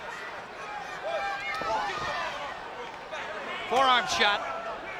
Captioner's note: spectators chattering